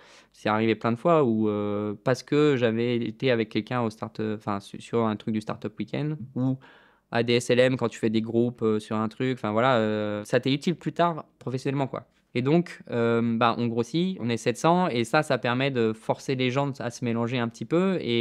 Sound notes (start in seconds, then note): none